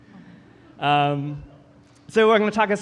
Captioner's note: audience chuckling